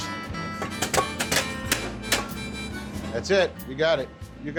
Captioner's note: chopping sound